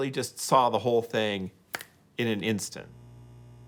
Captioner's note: snaps fingers